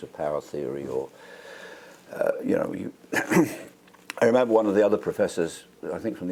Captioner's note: cough